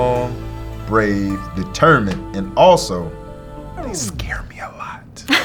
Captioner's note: hopeful orchestral music; record scratching; whisper; laughing